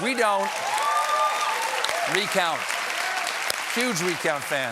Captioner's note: cheers and applause